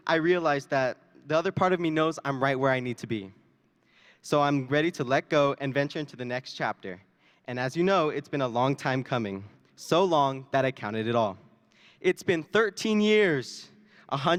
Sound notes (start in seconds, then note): none